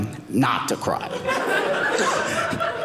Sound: audience laughing

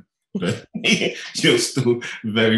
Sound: laughing

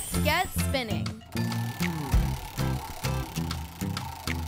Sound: whirring

